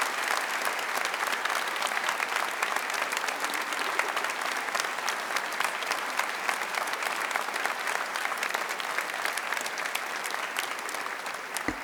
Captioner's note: applause